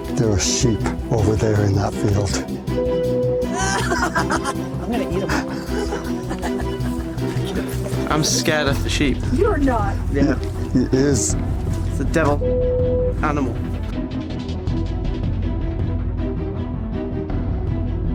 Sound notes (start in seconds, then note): 3.5 laughs; 15.9 suspenseful music playing